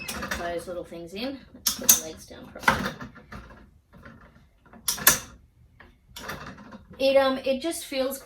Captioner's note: clunk, rattle, and squeak; click-click, clunk, rattle, and the same again